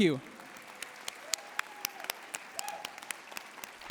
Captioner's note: cheering and applause